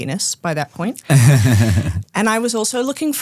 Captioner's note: group laughing